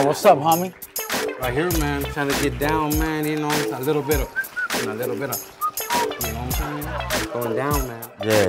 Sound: whistles

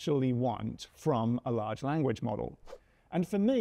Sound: screen whooshes

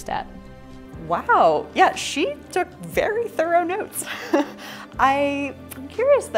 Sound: laughs

